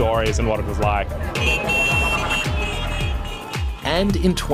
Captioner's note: horns beep